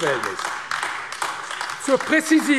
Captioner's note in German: Beifall AfD